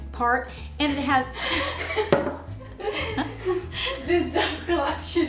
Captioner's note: laughing